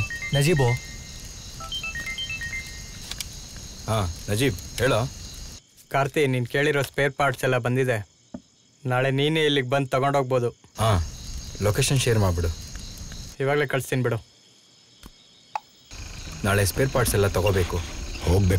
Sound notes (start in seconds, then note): 1.6 phone Ringing; 14.2 night Ambient Sound